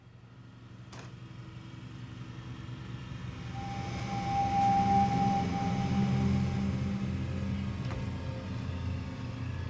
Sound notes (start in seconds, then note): 3.9 engine rumbling